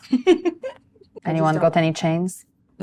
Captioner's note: laughs